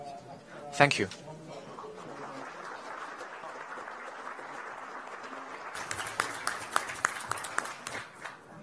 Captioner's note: applause